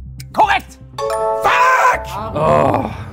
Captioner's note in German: Klingeln